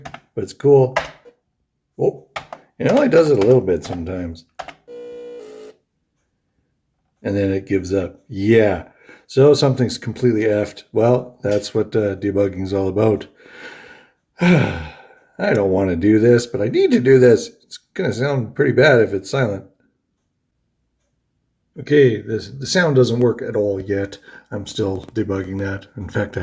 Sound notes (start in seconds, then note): 14.4 sighs